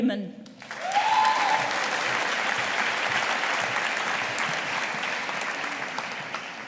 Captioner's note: audience applauding